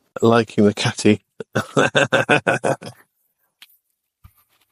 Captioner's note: laughs